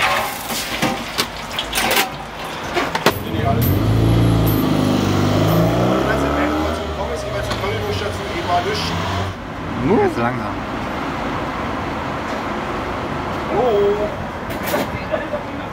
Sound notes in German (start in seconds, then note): 3.4 Strassengeräusche